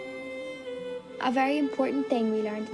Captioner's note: voice-over